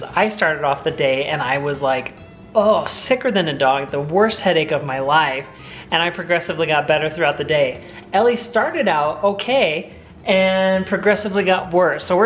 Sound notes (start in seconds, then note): none